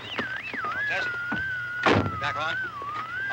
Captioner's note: radio whirring; radio newscaster